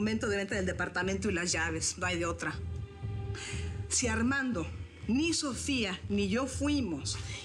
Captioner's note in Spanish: none